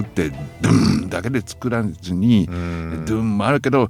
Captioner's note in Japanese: 咳払い